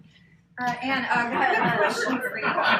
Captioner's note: laughter